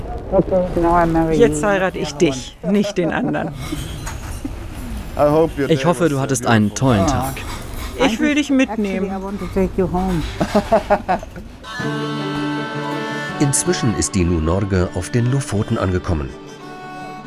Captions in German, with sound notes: Jetzt heirate ich dich, nicht den anderen. Ich hoffe, du hattest einen tollen Tag. Ich will dich mitnehmen. (Er lacht.) (Idyllische Musik) Inzwischen ist die Nordnorge auf den Lofoten angekommen.